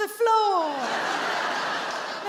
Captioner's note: audience laughing